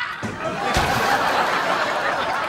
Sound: crashing

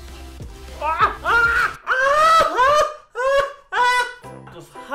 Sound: yells after burning his whole mouth on the hot water

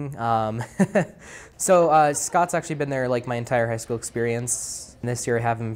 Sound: laugh

